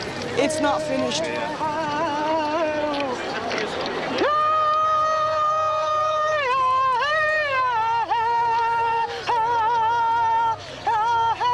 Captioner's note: chanting